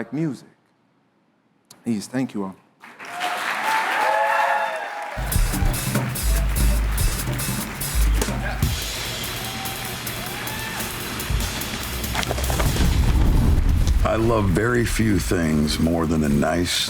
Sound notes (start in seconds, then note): 2.8 applause